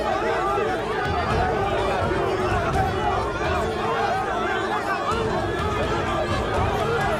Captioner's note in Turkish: Kalabalık bağrışma sesleri